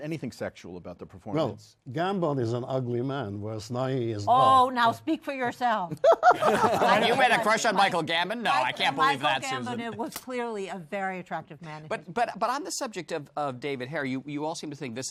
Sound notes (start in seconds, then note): 5.9 laughter